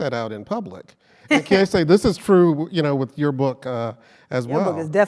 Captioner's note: laugh